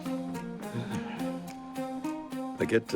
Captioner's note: sighs with satisfaction